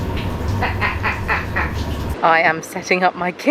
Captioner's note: laughs